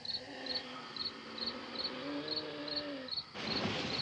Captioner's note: wheezing - groaning